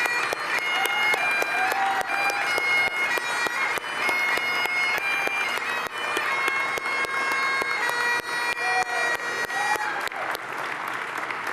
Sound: bagpipes; cheers and applause

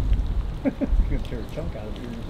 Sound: laughing

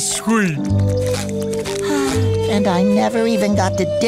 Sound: sighing

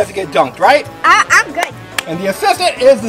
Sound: clapping

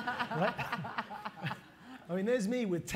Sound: laughter

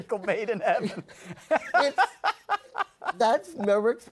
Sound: laughs

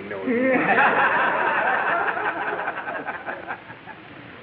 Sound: audience laughing

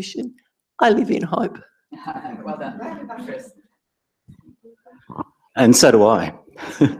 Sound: laugh; laugh

